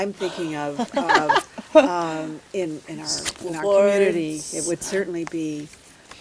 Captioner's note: laughs